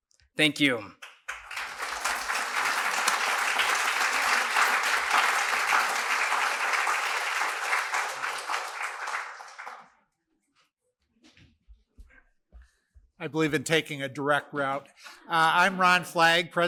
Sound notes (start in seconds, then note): 6.9 applause